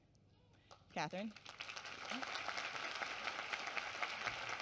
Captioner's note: applause